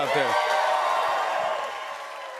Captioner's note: cheers and applause